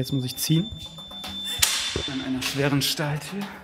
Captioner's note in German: Piepton